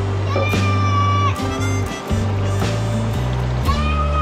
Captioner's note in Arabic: يصرخ